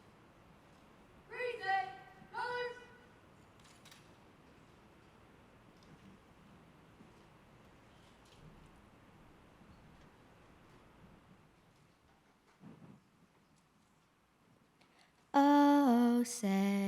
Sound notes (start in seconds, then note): none